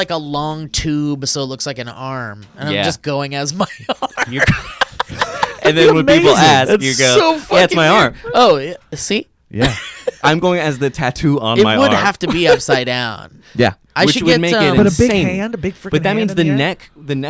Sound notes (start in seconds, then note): 3.7 laughs